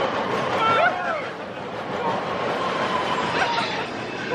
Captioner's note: screams